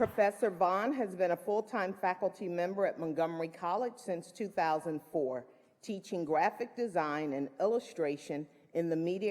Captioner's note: applause